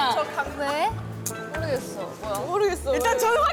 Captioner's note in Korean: 술렁이는 사건 현장